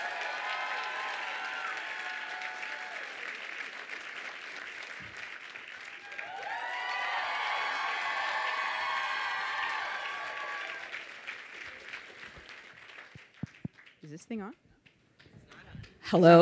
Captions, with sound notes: (audience cheering and applauding) (audience cheering) - Is this thing on?